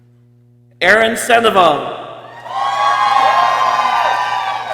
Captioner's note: people cheering